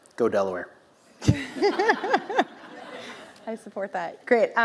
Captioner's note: laughs